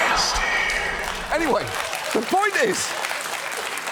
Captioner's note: studio audience applauds